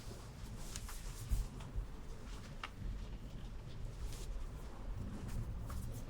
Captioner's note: clothes rustling continues